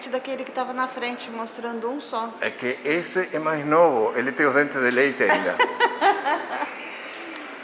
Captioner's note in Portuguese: risos